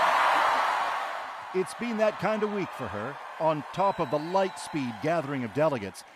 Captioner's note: cheers and Applause